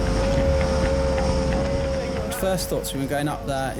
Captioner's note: wind howls